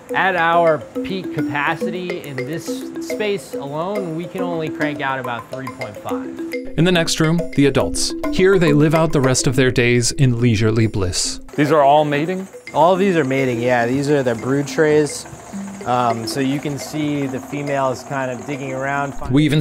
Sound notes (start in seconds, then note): 6.9 voiceover; 19.4 voiceover